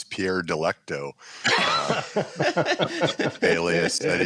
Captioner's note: laughter